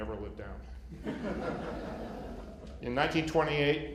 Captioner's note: laughter